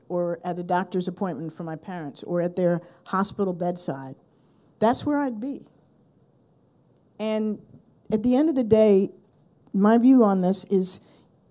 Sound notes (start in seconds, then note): none